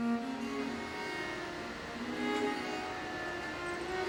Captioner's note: torch hissing